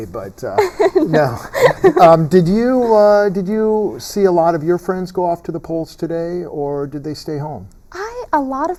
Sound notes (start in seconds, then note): 0.6 laughter